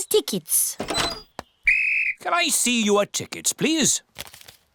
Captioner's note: blows whistle